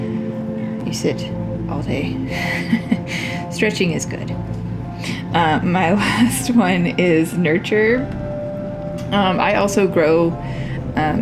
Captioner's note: laugh